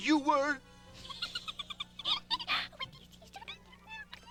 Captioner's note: giggling